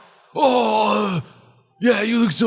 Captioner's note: moaning Noises